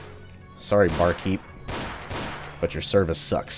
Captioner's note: exchanged gunfire